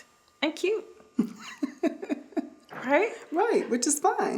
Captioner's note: laughing